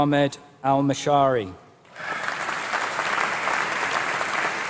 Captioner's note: applause